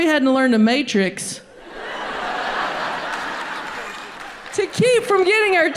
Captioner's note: audience laughs